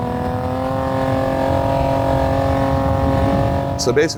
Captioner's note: vehicle revving